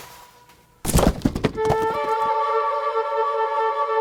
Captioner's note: hands slap; body thuds